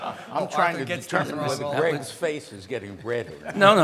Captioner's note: laughs; audience chattering